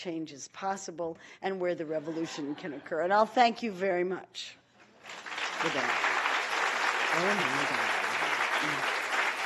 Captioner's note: applause